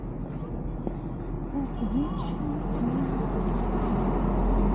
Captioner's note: humming to myself